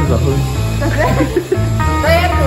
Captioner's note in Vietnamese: cười